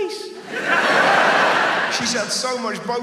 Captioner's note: audience laughs